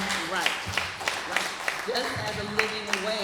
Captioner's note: applause